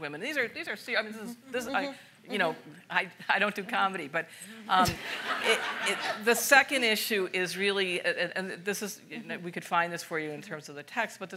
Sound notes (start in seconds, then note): 4.9 audience laughs